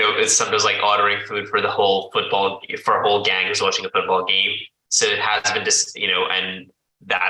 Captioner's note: laugh